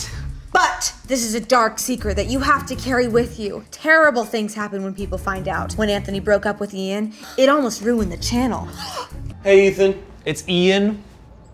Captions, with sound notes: "But, this is a dark secret you have to carry with you." "Terrible things happen when people find out." "When Anthony broke up with Ian, it almost ruined the channel." *gasps* Hey, Ethan. It's Ian.